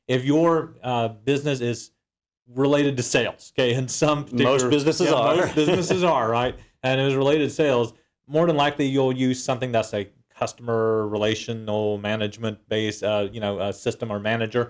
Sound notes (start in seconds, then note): 4.4 laugh